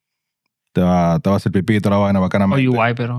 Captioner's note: speaking In Foreign Language